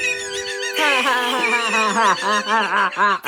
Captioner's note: Luigi Laughing